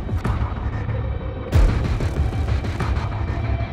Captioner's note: none